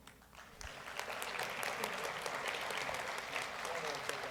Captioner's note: audience applauds